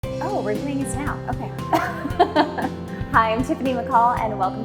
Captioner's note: laughs